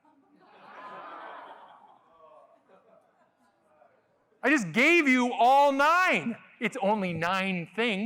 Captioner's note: laughter